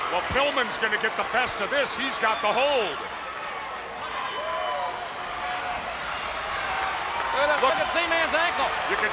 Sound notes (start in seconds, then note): 4.0 crowd cheering